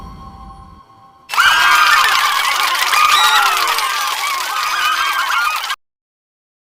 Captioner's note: cheering